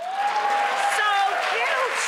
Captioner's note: crowd applauds